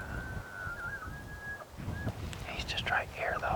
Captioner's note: wind whooshing